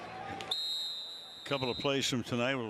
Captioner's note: whistle